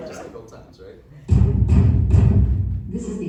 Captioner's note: fist bangs on the door